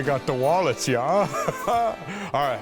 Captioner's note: laughs